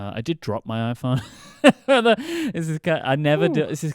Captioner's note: laughs